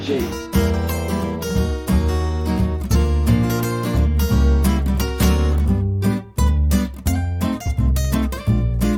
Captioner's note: tasty inhalation